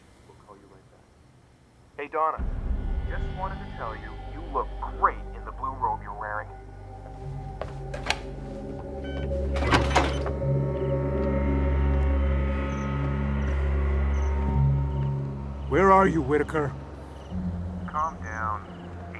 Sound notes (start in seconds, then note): 3.5 on telephone